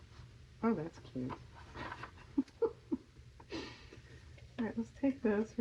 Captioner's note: laughs